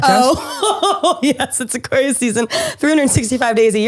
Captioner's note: laughs